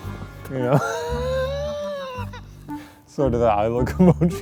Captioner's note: laughing